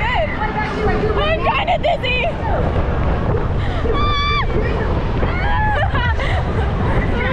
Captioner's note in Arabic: صراخ